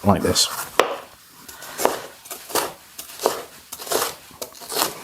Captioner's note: choppin